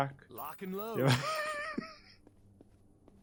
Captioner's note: laughs